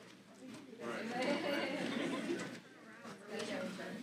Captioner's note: chatter